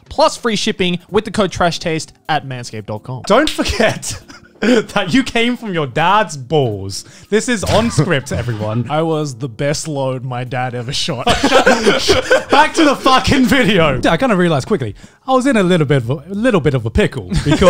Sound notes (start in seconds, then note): 11.2 laughing